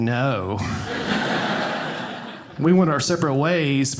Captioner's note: audience laughing